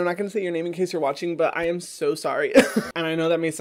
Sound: laughs

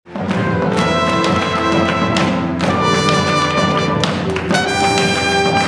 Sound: students clap, stomp; intense instrumental music

